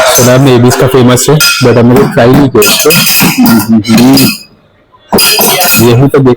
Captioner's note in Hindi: गला साफ़ करने की आवाज़